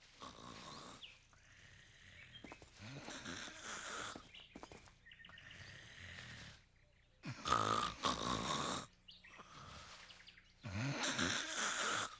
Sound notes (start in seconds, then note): 1.2 snoring